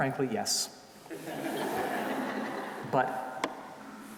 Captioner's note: audience laughing